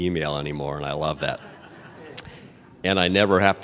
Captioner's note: laughter